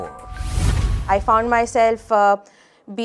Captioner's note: air whooshes